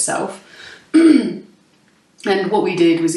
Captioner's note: clears throat